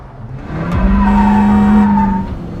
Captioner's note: dramatic music playing; horn; wheels squeaking